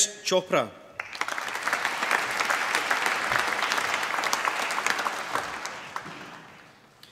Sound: applause

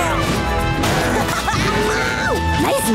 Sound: laughing

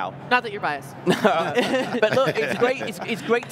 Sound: all laughing loudly

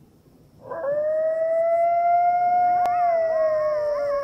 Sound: coyotes Howling

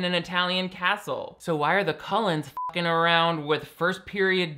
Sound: beep

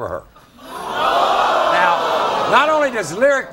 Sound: audience gasping

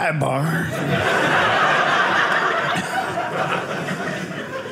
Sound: audience laughing

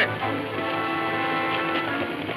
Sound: horses galloping; dramatic music playing

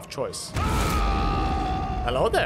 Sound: an unimpressed roar

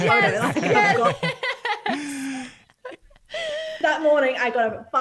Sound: all laugh

